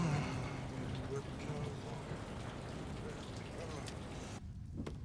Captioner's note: grumbles